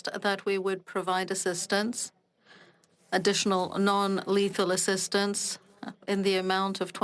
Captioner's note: speaking French